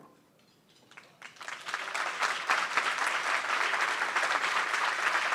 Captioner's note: applause